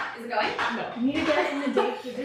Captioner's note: laughs